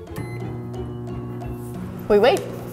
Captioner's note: beeping